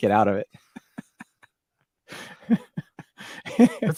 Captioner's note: laughing